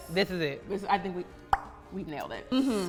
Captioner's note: pop